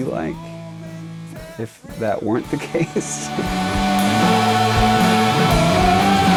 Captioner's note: laughs